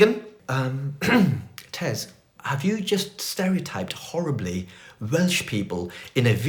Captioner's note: clears throat